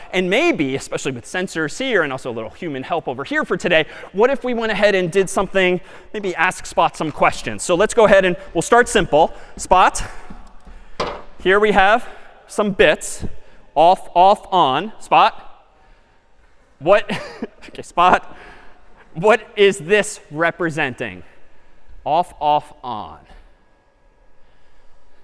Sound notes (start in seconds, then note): 16.2 می خندد